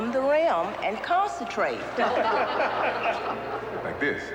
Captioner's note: laughter